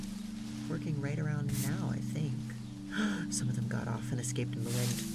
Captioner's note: gasps